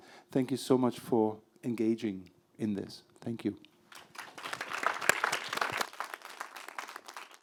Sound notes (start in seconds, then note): 3.9 applause